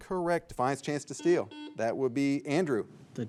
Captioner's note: signal beeps